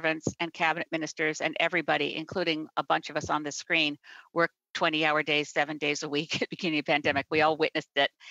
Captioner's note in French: voix de l'interprète